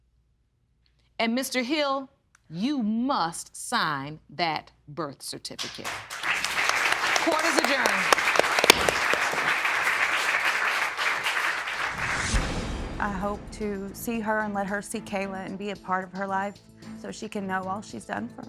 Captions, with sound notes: And, Mr. Hill, you must sign that birth certificate. (AUDIENCE CLAPPING) Court is adjourned. I hope to see her and let her see Kayla and be a part of her life so she can know all she has done for her.